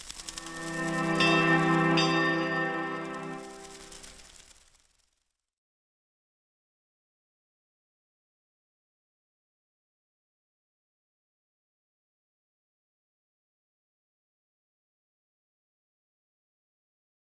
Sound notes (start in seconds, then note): 0.1 gentle music; 0.3 bell ringing; 3.4 leaves rustling